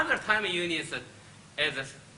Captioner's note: speaks Chinese